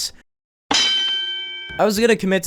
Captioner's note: boxing ring ding